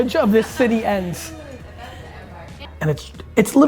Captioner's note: group laughs